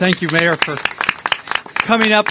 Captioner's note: applause